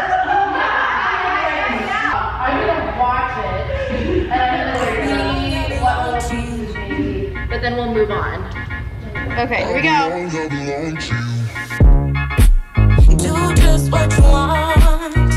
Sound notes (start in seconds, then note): 0.0 students laugh; 2.1 group chattering; 11.9 upbeat music